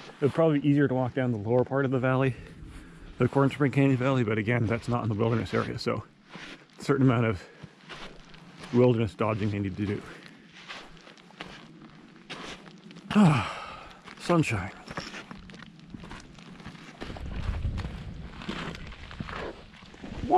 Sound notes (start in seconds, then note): 13.0 sighing; 17.2 footsteps crunching